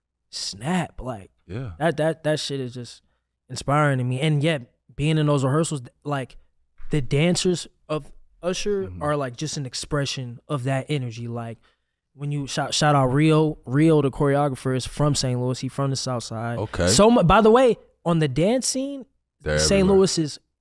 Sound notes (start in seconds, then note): none